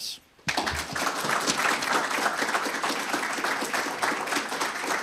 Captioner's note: audience applauding